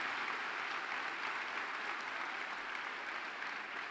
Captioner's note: applause